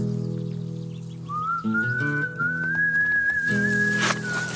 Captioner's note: whistling